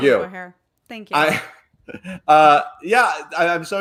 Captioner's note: laughs